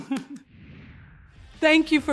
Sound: laughs; air whooshing

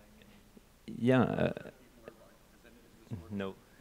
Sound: speaks faintly

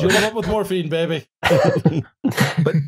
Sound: chuckles; laughter

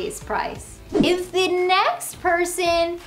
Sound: graphics whoosh

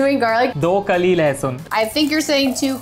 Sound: speaking in Hindi

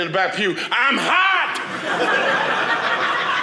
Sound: audience laughing

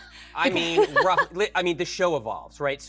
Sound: laughs

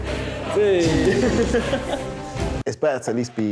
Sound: hip hop music; laughing

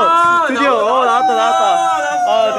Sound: cheering

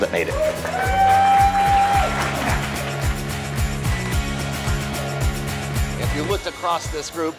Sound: applause

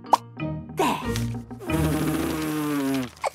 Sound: blows

